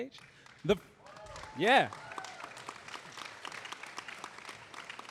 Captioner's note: audience applauding